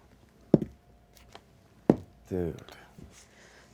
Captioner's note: dice thud